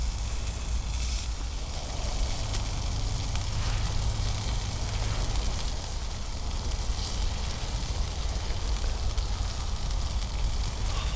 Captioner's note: sizzle